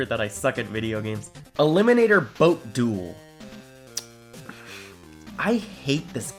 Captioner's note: sigh